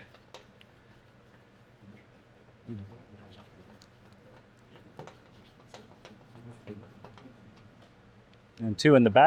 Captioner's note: silence